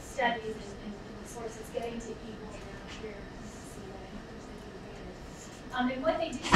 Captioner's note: speaking away from mic